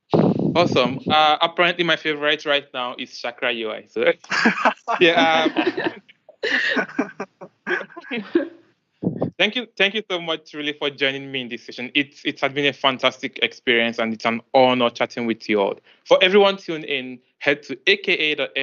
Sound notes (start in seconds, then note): 4.2 laughter